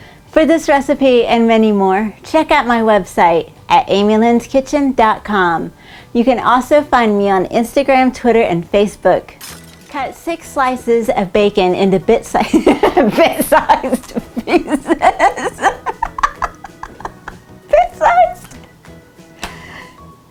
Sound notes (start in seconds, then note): 16.5 laughing